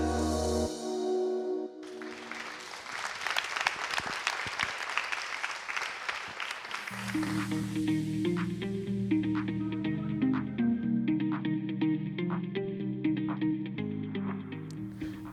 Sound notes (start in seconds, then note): 1.8 applause